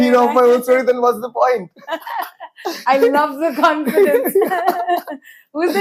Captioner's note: laughs